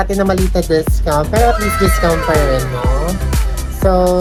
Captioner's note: wow SFX